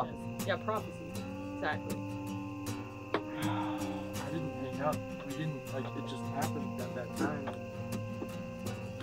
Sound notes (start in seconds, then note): 3.2 sighs